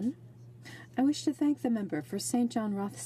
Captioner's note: speaking in french